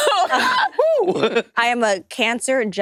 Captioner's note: participants laughing